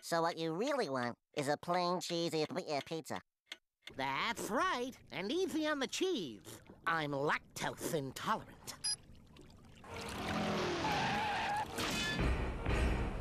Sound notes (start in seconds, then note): 10.1 tires skidding